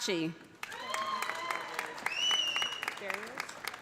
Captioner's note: audience applauding; audience cheering